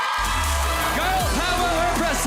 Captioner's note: audience cheering